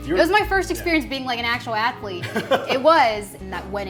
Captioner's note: laughs